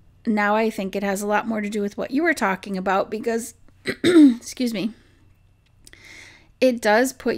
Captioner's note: clears throat